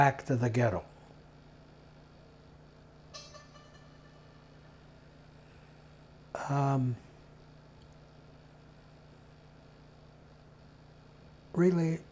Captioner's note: pauses 11 seconds